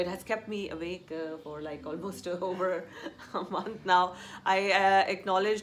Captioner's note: laughs